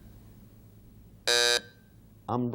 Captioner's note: buzzer sounding off